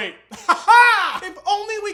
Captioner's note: weird laughing